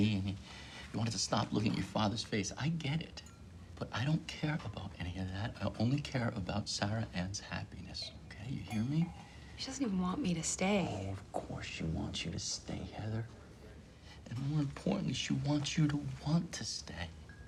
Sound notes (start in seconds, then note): none